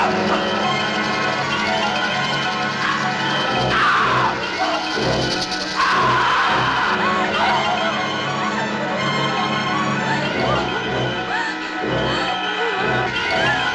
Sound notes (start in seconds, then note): 5.7 scream; 8.4 tense music - gasping